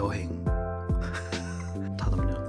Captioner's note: laughing